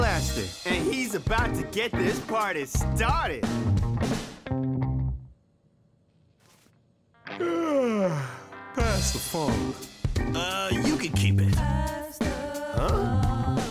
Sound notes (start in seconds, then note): 5.4 music stops; 7.3 yawning